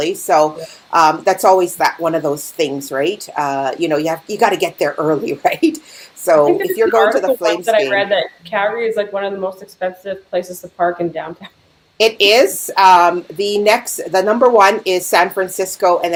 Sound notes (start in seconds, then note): 11.8 chuckling